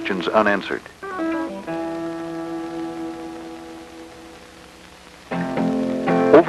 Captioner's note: background static